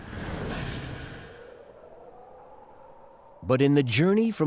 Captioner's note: wind howling